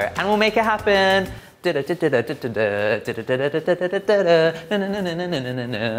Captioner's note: humming festive tune